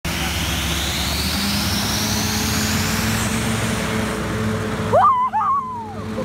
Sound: hovercraft sound

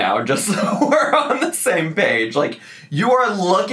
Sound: laughing

